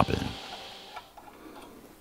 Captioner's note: quiet crackling